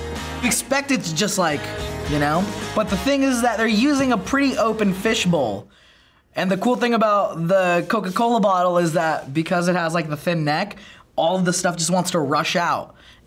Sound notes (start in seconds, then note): none